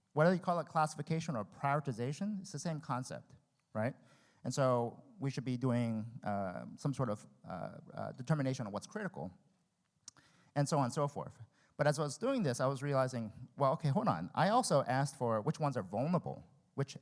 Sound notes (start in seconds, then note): none